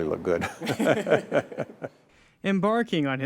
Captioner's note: they laugh